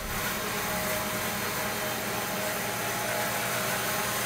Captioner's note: machine sawing